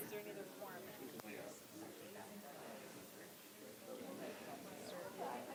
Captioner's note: audience chattering softly